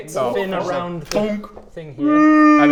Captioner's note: thunk